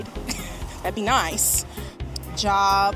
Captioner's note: laughing